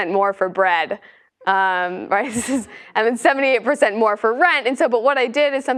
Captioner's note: laugh